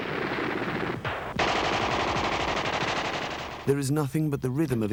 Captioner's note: guns firing